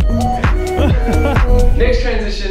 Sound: laughs

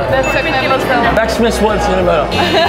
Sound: speaks Czech

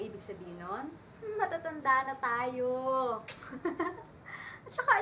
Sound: chuckles

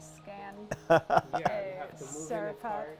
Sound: laughs

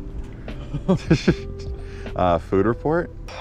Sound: men laughing softly

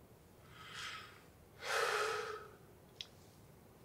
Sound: Brian sighs

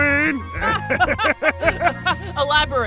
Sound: Cloud and Doorguy Laugh briefly

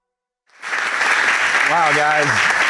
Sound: audience applauding

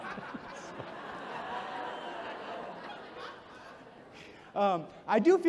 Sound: audience chuckles

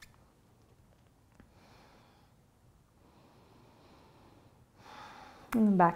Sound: breathing

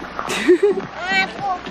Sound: chuckling

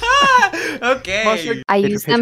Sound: laugh; breathes in

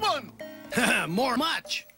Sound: chuckles

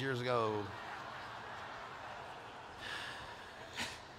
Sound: laughter

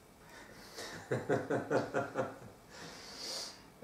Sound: hahaha

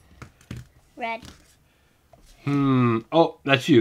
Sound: voiceover

